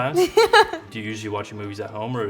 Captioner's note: laughing